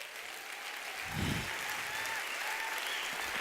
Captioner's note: applause